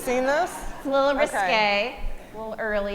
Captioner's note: audience laughing